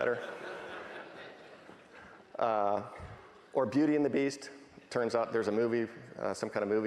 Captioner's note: laughing